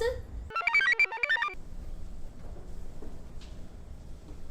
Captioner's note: computer chirps